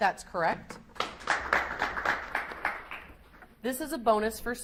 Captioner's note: audience applauds